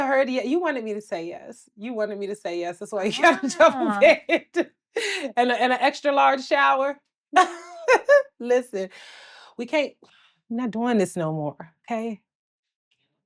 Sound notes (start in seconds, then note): 7.4 laughs